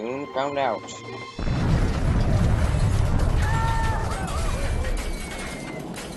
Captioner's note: crash; goofy Yell